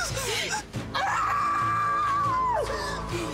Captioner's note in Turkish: Bağırıyor